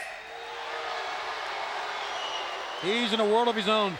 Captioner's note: crowd jeering